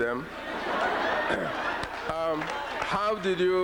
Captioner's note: laughter